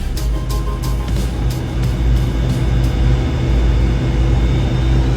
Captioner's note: engine whirring